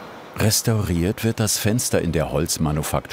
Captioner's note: none